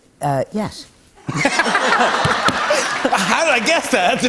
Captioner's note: laughter